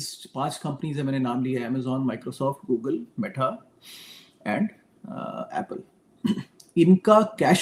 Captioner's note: sound of clearing throat